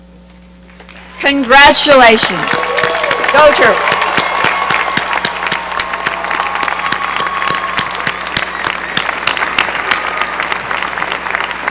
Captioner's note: cheering and applause